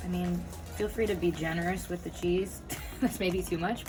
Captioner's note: laughs